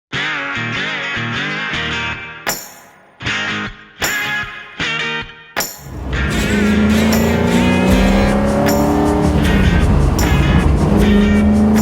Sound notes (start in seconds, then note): 0.3 upbeat music playing; 5.8 car engine accelerating